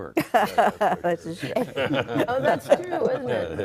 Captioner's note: all laughing